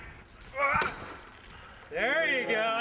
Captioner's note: grunting